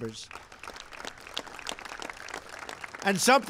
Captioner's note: applause